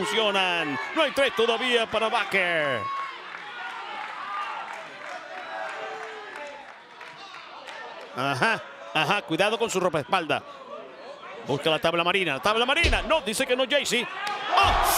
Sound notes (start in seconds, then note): 1.6 applause